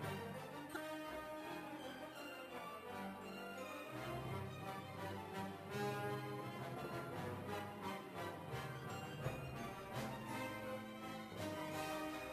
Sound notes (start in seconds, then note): none